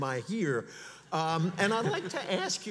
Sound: audience laughs

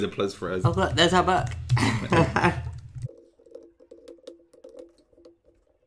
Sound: laughing

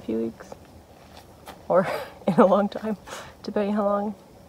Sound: laughs

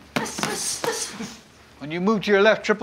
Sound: grunting

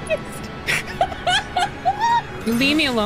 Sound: laughter

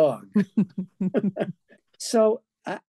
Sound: both laughing

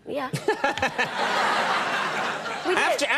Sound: audience laughing

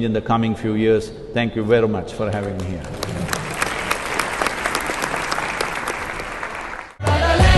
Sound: applause

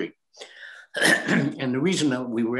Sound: clears throat

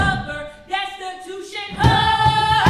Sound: characters stomping

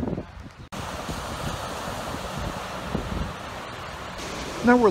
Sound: water splashing

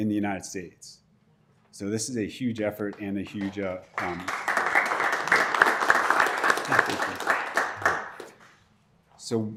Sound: applause

